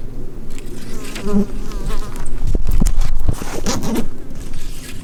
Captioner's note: buzzing flies